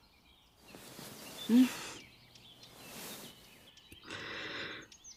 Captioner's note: rustling; heavy breathing, rustling